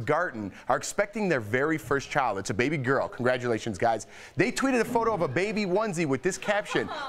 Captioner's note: laughter